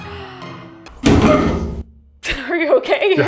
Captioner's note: object thumping